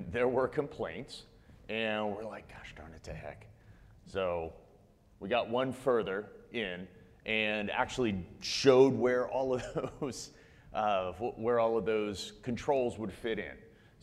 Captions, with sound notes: there were complaints and we're like, gosh, darn the heck. So we got one further in and actually showed (chuckles) where all of those controls would fit in.